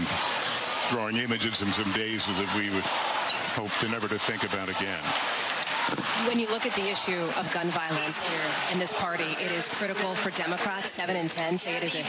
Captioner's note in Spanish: aplausos